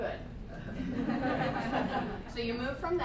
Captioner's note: laughter